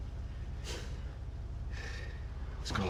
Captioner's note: exhales